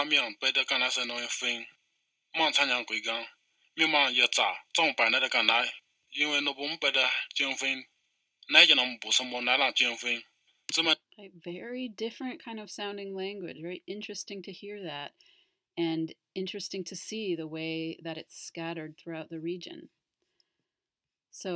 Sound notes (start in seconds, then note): 1.0 language recording